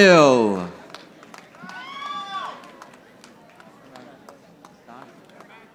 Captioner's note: audience applauding